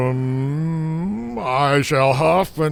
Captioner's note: Haldor groaning